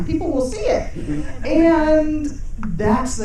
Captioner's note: audience chuckling